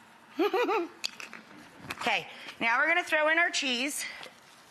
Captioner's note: audience laughing; giggles